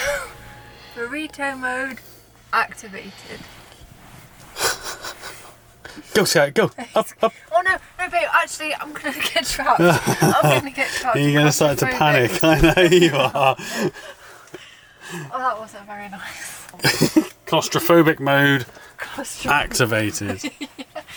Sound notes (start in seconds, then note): 14.0 laughing